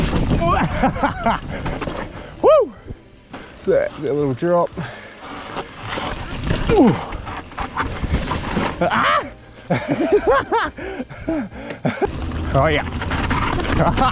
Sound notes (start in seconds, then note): 0.4 laughs; 6.4 grunts; 8.8 screams happily; 9.7 laughs; 13.8 screams and laughs happily